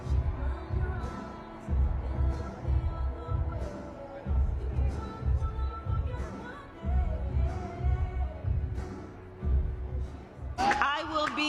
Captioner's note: chanting